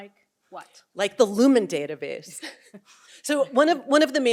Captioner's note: chuckles